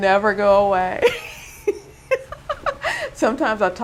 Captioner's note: laughing